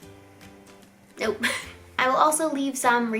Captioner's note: laughs